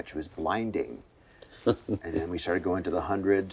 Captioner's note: laughing